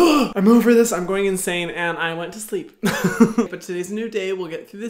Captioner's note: laughs